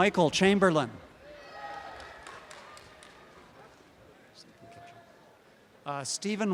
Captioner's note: background audience chatter; applause and cheering